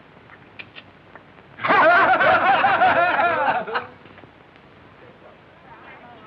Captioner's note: laughter